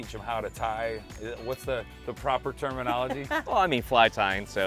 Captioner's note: laughing